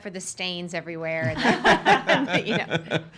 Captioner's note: laughing